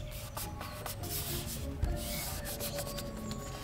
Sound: rubbing

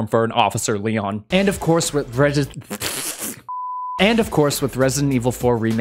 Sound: blows raspberry in frustratiob

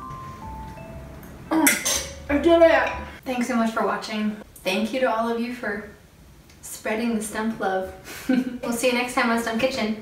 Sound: laughs

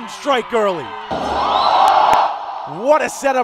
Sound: crowd cheering

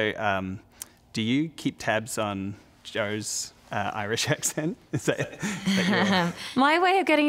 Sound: laughs

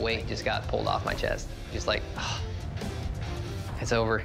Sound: sighing

